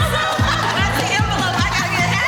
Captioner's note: laughing